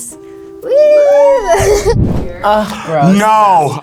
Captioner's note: laughs